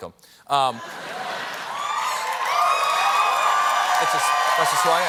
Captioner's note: cheers and applause